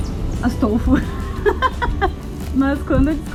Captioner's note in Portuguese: risos